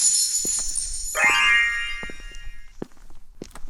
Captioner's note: metallic clinking; final magical chime